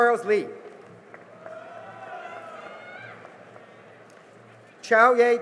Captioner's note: cheering and applause